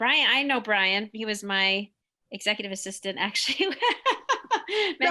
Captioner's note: laughs